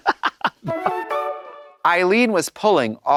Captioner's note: bright chime